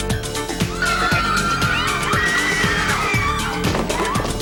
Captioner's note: girls screaming